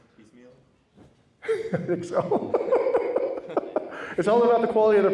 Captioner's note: laughs